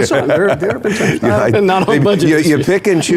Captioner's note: laughing